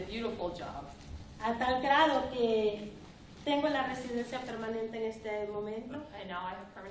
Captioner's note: speaking spanish